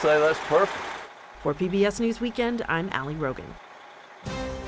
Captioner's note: voice-over